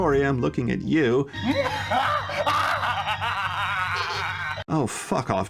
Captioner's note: don laughing like a fucking imbecile